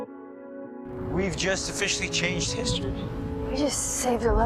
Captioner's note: voiceover